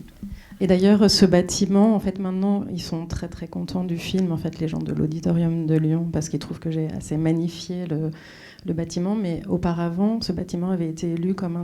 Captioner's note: speaking French